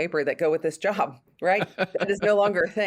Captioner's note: laughs